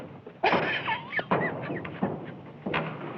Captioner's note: laughing